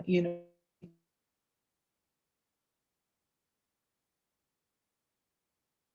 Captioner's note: audio cuts off